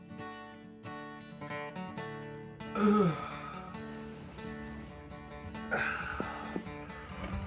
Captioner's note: yawning